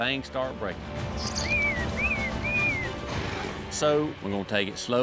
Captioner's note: whistling